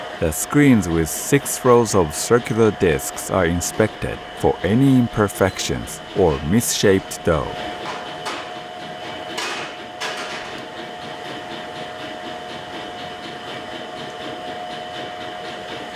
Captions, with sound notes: The screens with six rows of circular discs are inspected for any imperfections or misshaped dough. [machine chugging and whirring]